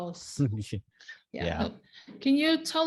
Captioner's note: chuckles